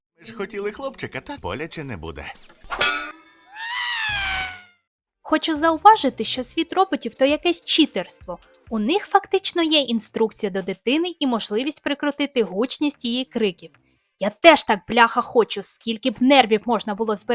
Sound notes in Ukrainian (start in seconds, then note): 3.2 крик